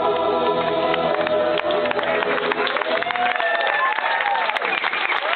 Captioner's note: applause